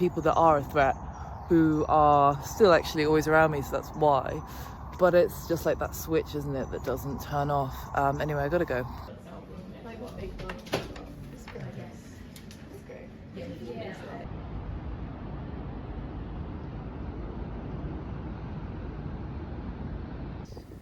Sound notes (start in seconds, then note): 9.0 office background; 13.8 street sounds